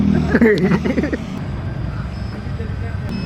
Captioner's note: laugh